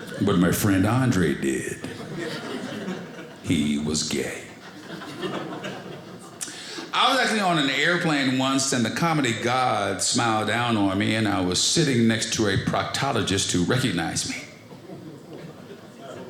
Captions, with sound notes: but my friend Andre did, (audience laughing) he was gay. I was actually on an airplane once and the comedy gods smiled down on me, and I was sitting next to a proctologist who recognized me.